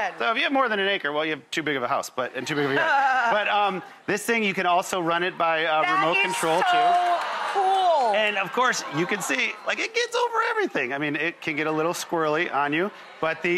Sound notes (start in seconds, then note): 2.7 laughing; 2.7 audience laughing; 7.8 audience oohing and clapping